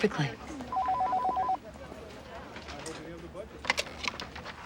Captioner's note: phone rings